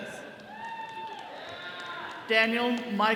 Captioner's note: attendees cheering